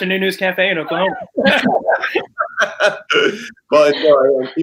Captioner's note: laughter